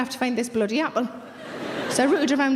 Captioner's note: audience laughing